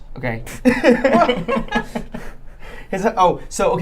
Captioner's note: laughing